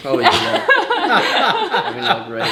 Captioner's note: laughing